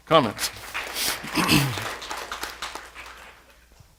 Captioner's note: applause